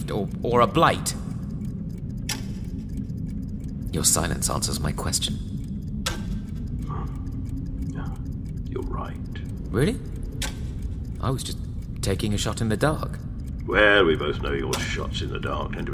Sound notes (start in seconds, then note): 2.2 clock ticking; 6.8 sighs